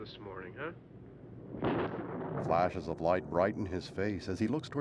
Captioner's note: thunder crashes